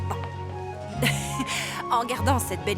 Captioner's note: laughing